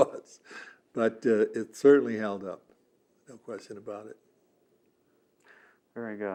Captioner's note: laughing